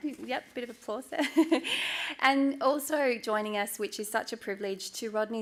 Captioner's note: chuckles